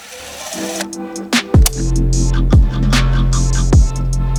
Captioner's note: film rewinds